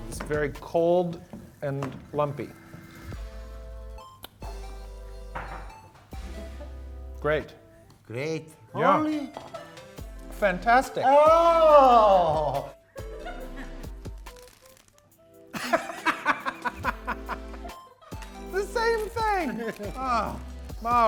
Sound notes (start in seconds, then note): 15.5 laughing